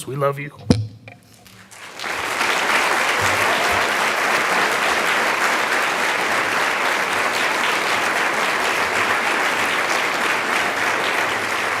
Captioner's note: sound of applause from the audience